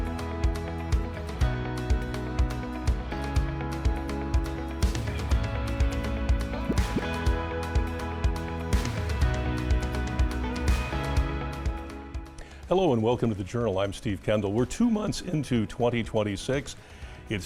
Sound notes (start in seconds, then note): 6.6 graphic pops